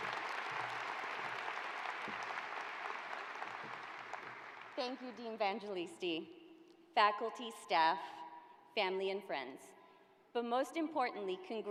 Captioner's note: applause